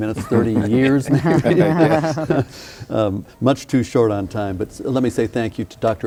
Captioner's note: laughing